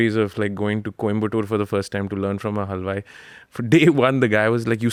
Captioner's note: chuckles